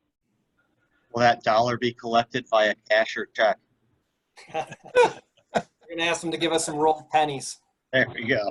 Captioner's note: laughs; laughs